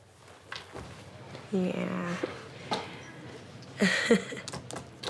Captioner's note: chuckles